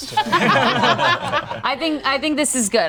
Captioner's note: group laughs